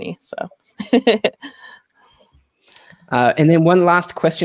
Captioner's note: laughs